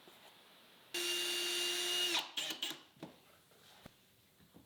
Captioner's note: drill buzzing